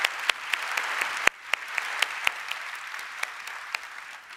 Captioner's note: applause